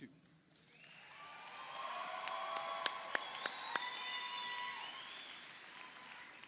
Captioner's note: audience applauds; audience cheers